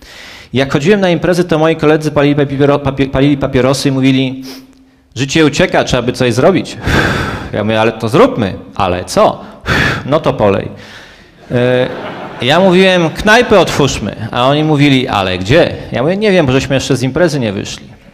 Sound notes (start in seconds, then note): 11.4 laugh